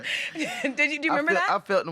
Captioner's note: both laughing